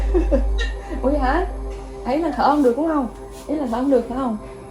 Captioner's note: giggling